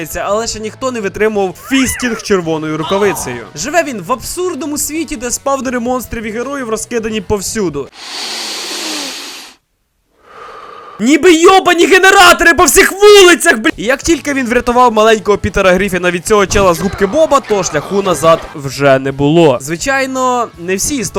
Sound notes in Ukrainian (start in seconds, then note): 7.9 вдихає; 9.9 видихає